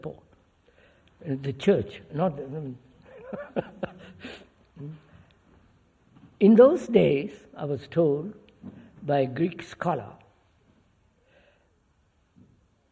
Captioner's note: laughs